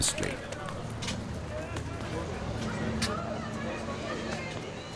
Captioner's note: people chattering